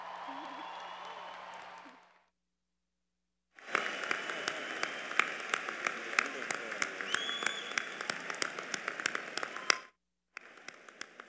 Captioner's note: applause